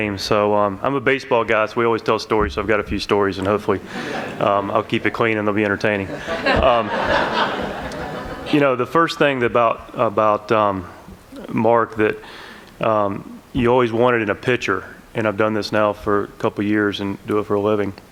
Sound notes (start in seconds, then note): 5.9 laughter